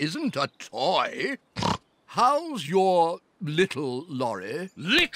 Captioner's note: snorts